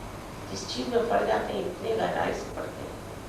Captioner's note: hindi